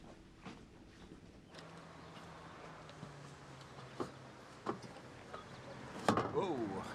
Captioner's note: birds chirping; engine rumbling